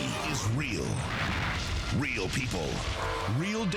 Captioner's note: explodes